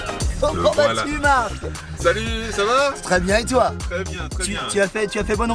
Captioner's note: men conversing in foreign language